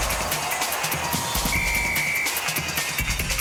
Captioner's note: whistle blows